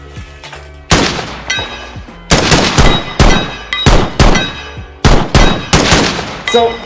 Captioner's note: distant steel targets pinging; gunfire